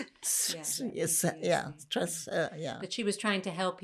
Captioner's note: laughing